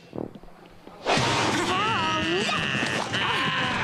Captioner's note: kiaiing